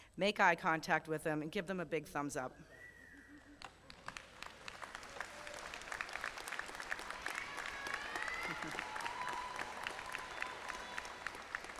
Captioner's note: applause